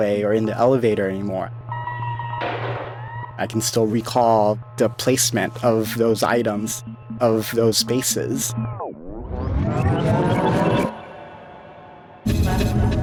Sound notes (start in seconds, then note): 1.8 computer bleeping; 2.3 door thudding; 9.6 electronic fizzling